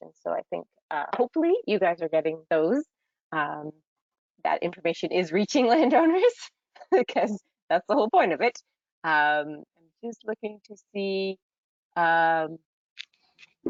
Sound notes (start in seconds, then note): 6.6 giggles